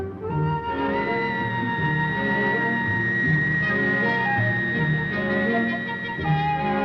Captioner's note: machinery whining and whirring